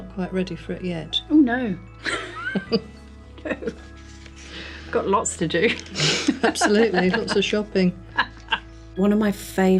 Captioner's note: laughs